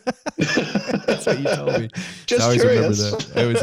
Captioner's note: laughs